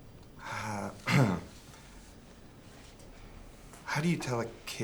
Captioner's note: throat clears